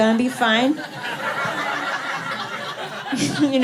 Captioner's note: laughter